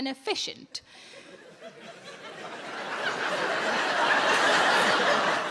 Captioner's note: audience laughing